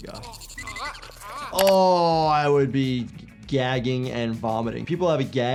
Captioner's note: groans